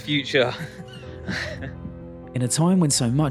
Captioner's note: laughs